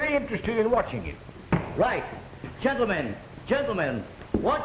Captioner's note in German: knallt